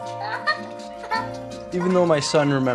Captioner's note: child laughing